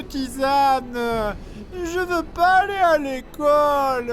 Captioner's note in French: voix plaintive